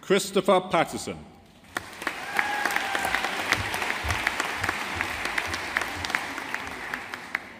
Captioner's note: audience applauding